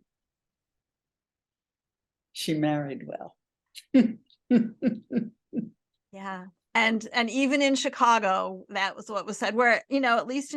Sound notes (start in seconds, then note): 4.5 chuckle